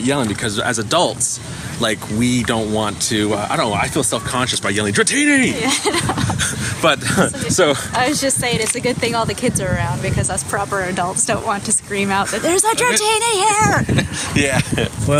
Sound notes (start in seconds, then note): 5.0 laughing; 12.0 laughs